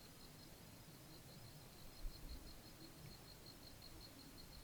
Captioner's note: insects chirping